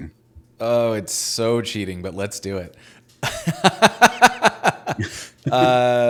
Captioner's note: laughing